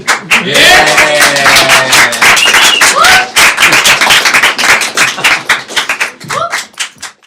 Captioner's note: clapping hands